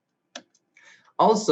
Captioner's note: mouse clicks